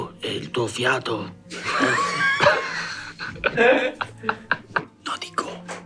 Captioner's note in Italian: Risate